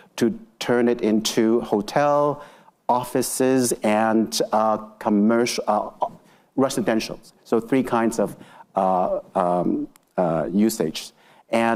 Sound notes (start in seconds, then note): none